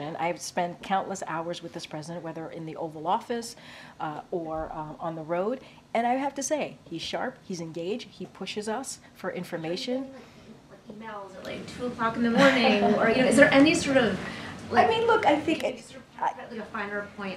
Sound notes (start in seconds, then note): 12.3 laughs